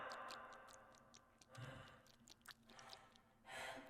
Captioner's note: blood squelching